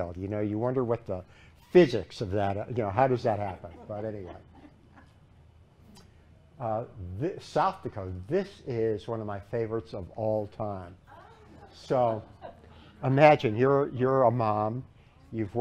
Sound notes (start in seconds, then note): 5.7 laughter